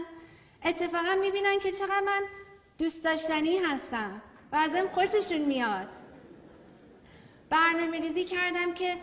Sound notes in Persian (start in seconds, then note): 5.9 خنده‌ی حضار